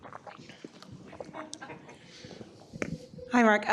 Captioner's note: laughter